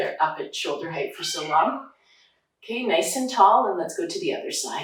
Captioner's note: cat meowing